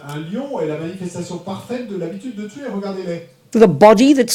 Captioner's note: audience member speaks in French